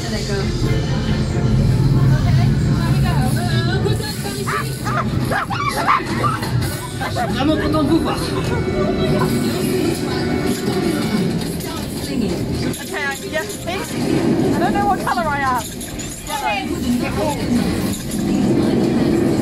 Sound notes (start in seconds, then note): 4.9 yelling